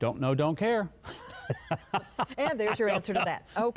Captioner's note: Mike laughs